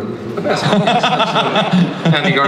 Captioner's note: Chris laughs